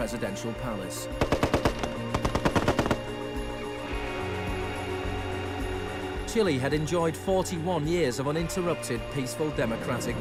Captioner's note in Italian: clacking della macchina da scrivere